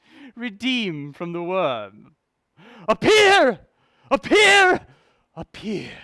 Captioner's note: none